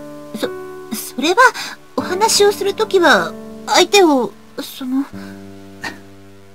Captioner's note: rain